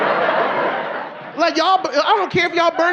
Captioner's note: audience laughing